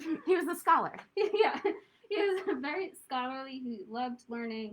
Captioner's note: laughter